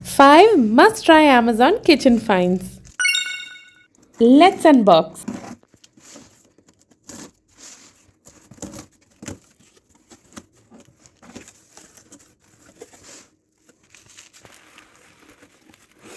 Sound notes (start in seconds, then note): 5.2 ASMR opening packet, bubble wrap